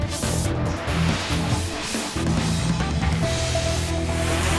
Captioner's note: upbeat music; graphic whooshing